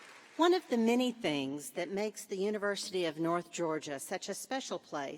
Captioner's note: applause